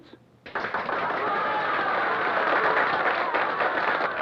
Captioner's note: crowd cheers